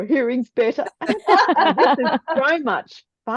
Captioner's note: eberyone is laughting